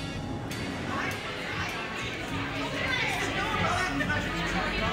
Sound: party noise

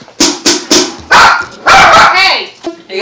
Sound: dog barks

